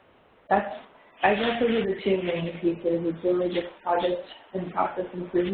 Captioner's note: audio warps